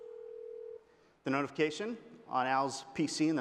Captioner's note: phone rings